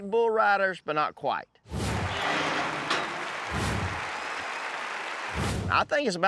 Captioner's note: crowd cheering